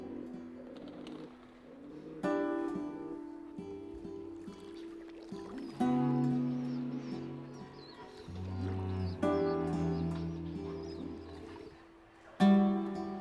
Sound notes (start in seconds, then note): 0.1 gentle classical music; 0.1 pigeon cooing; 4.5 gentle classical music; 4.5 water babbling